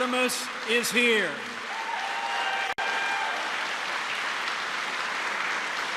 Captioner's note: applause